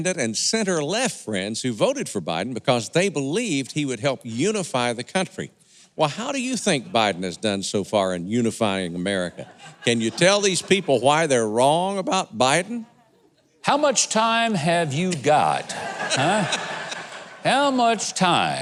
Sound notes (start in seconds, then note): 14.9 audience laughing